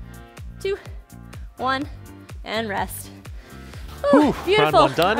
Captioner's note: panting